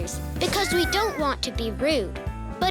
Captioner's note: squeaking